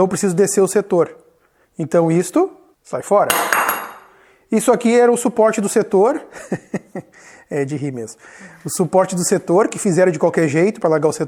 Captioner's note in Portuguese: risos